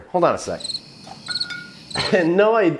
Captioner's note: crickets chirping